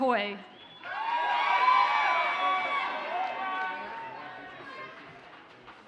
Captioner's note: audience cheers and applauds